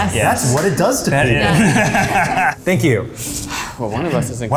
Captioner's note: laughter